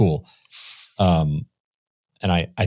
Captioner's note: chuckles